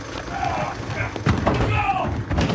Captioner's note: Robert grunting